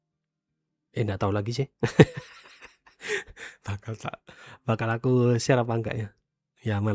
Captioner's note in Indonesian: tertawa